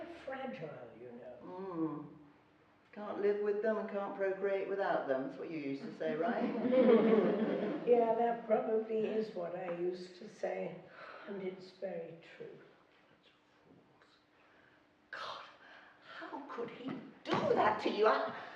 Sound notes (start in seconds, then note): 5.9 laughing